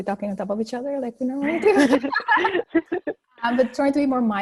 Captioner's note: ladies laughing